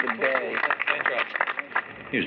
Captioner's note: applause